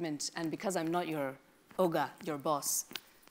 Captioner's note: speaks in a foreign language